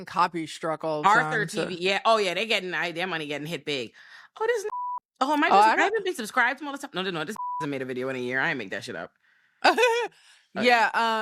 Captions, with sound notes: R13V, yeah. Oh yeah, they're getting, their money getting hit big. Oh, this (beep) Oh, am I supposed to be subscribed to all this stuff? No, no, no, this (beep) I made a video in a year. I ain't make that shit up. (laughing) Yeah. I'm about to send you.